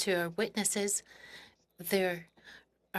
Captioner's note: speaking French